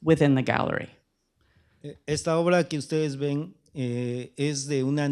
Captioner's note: speaking spanish